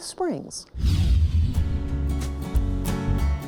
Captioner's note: rapid whooshing; gentle music